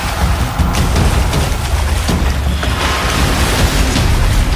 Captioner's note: applause